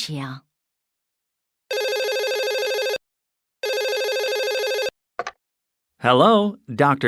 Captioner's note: telephone rings